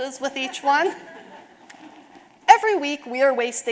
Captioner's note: audience laughing